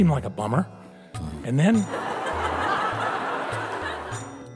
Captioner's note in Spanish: risas